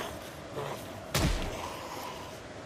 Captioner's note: close gunshot